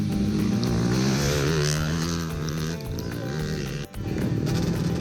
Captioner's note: roaring bike engines